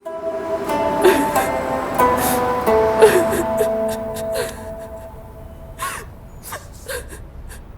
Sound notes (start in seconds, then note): 3.8 sobbing